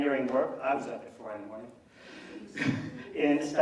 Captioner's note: laughs